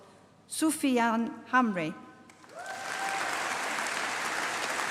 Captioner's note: applause